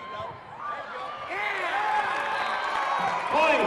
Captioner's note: loud cheering